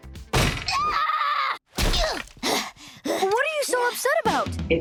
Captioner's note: jr. screams and hits the wall angrily